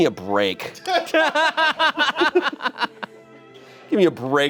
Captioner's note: and audience members laughing